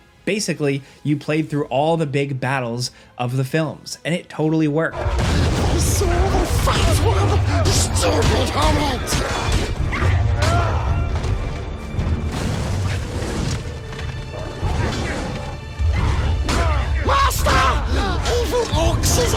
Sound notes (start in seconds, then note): 9.2 blows thudding; 9.2 tense dramatic music